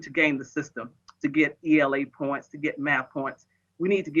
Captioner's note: faintly speaking